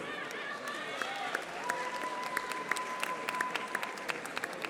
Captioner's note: audience applauding